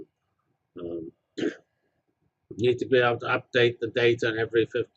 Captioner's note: cough